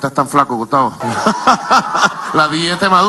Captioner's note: laughs